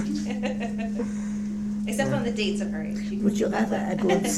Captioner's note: laughing